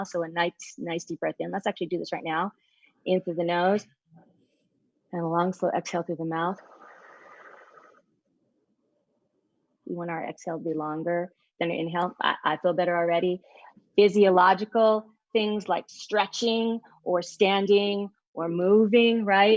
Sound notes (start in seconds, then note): 2.6 breathes in; 6.9 breathes out